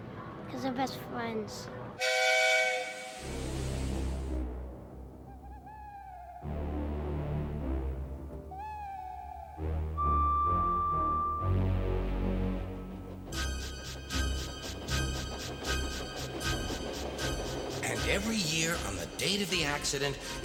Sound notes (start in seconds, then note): 2.0 engine whistles; 4.1 frightening music playing; 5.2 owl hooting; 9.7 engine whistles; 11.7 engine puffing